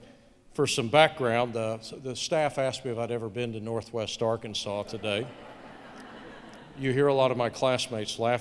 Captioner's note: laughter